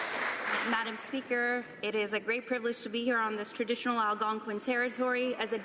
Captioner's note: some Applause